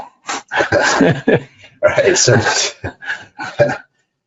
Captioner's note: laughing